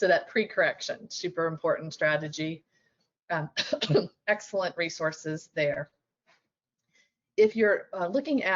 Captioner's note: coughs